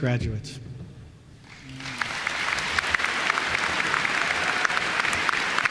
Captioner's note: applause